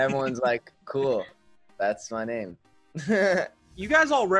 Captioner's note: laughs